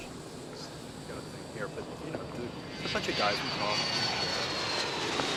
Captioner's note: airplane taking off